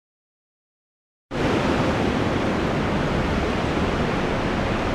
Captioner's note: blizzard blowing